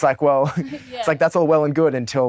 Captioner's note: chuckles